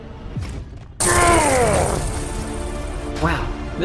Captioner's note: Knuckles Painful Grunt